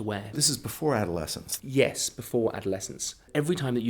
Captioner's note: voiceover